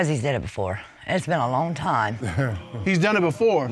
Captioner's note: chuckles